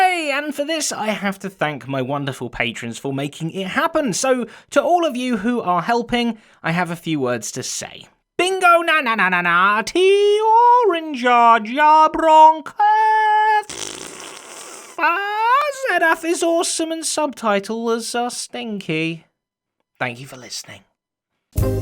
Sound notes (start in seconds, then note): 9.8 out of tune singing; 13.6 fart noises; 14.9 more awful singing